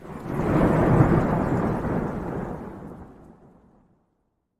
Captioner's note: lightning crashes